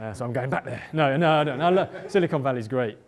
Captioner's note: laughter